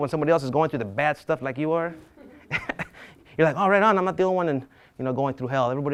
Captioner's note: laughs